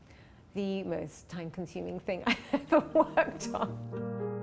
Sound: laughs

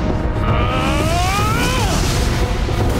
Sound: grunting

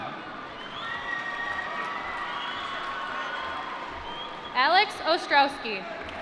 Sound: applause

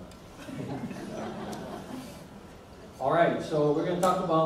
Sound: audience laughs

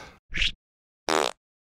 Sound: fart sound

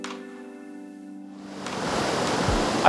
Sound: rushing water

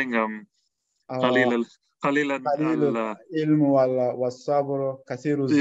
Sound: speaking Arabic

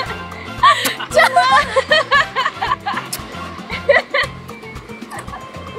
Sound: kissing sounds

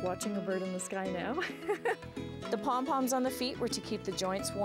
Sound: chuckling

